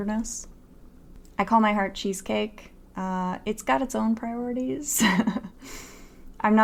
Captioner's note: laughs